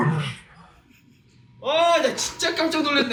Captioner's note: laugh